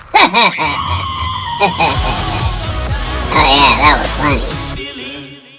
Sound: laughs

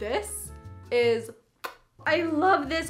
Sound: kiss noise

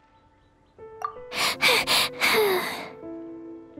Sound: panting

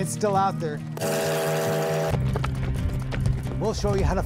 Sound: train horn blows

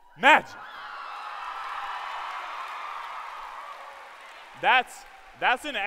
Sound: cheering; applause

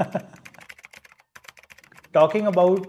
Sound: typing

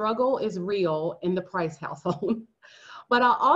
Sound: laughter

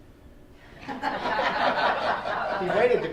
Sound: laughing

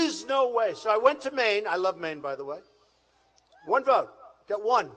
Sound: none

